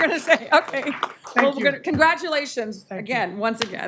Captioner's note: applause